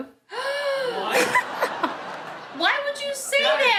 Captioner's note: woman gasps